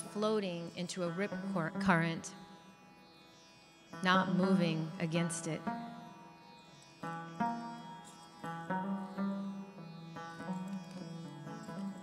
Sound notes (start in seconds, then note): none